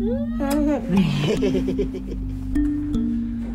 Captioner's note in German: Lachen